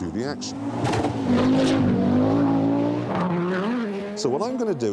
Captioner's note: engine roars